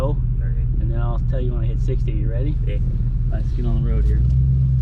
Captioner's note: tires screeching